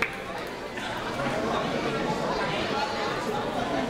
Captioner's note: crowd chattering